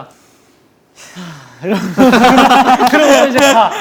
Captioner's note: deep sigh with lots to say